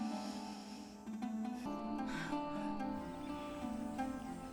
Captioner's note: breathes deeply